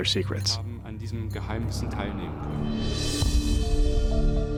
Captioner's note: non-english speech